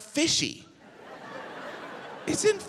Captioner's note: audience laughs